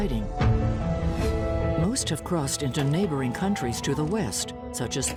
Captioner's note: air whooshing